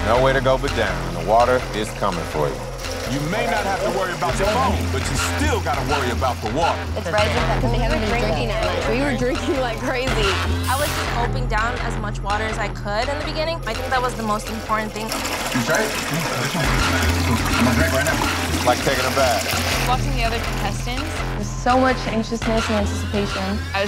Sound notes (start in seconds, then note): 0.0 water drowns out speaker; 14.8 water gushing; 16.5 water drowns out speaker